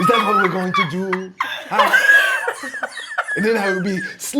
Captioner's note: laughing